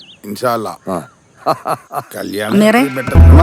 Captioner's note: laughing